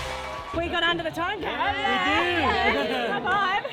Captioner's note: cheering